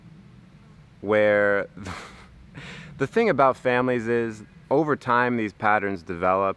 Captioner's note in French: rire